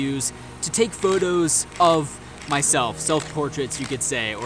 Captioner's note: camera clicks